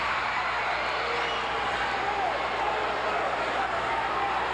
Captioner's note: audience cheering continues